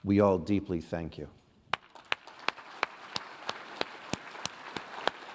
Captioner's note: applause